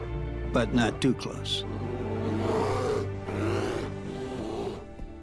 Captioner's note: grizzlies growing